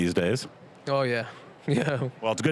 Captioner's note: laughing